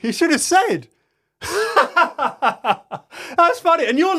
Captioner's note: laughs